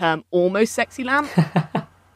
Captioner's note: laughs